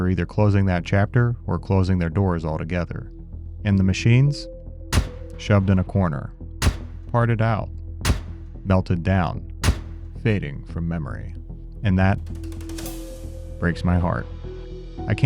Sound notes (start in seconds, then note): 6.6 switch clacks; 9.6 switch clacks